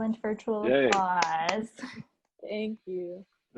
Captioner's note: all clapping